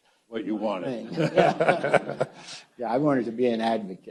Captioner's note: audience laughs